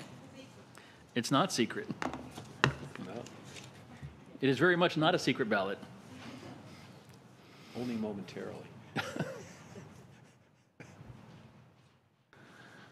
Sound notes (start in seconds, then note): 2.4 laughter